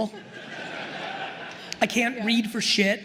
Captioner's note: attendees laughing